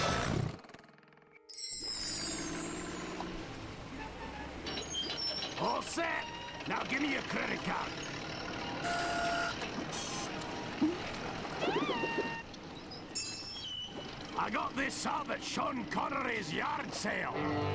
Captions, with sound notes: ALL SET. NOW GIVE ME YOUR CREDIT CARD. [machine whirring] I GOT THIS SUB AT SEAN CONNERY'S YARD SALE.